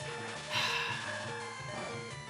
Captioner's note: sighs